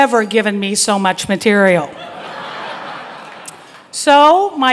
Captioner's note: crowd laughing